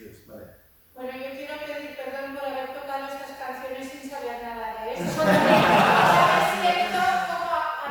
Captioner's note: laughs